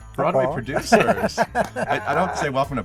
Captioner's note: laughing